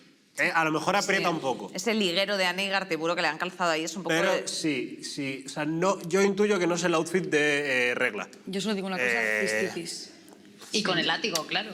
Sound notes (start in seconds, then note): none